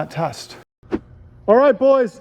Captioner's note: air whooshing